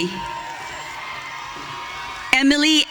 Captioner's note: audience cheering